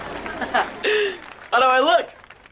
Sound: laughing

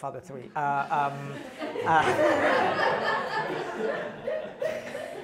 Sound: laughter

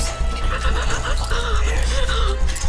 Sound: whimpering

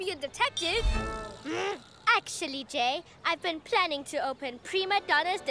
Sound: growls

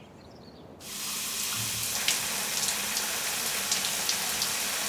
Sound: water splashes

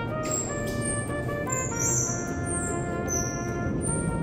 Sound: waddling

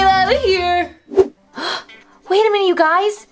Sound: Vampirina gasps

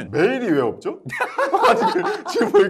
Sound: haha

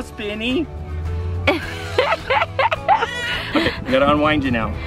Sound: giggles

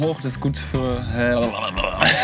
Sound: german noises

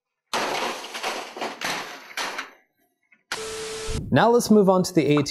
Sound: monitor clattering

